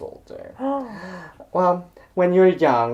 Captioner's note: gasps!